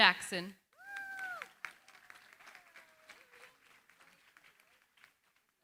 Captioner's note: applause